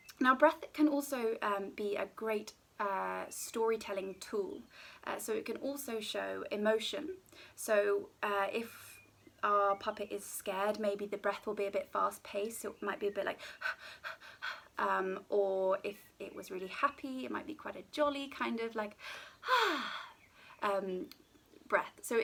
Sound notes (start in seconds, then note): 13.4 hyperventilating; 19.4 sighing